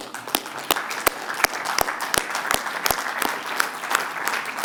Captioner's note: applause